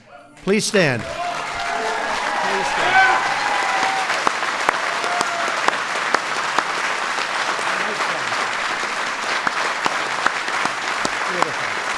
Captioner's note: applause